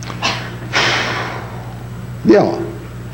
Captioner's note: sighs